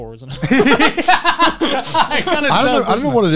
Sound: laughing

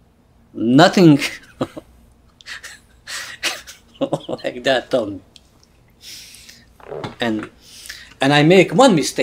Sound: laughs

